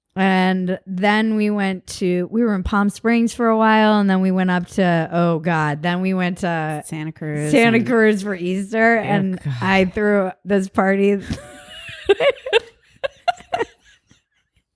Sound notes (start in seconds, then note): 11.3 both laugh